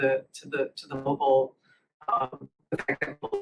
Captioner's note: audio blurs